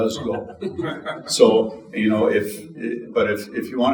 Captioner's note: audience chuckling